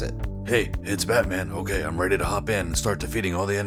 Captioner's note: Deep Batman voice